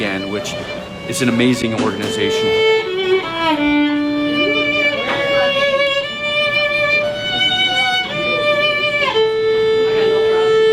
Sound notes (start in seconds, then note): 2.3 violin playing; 4.2 women talking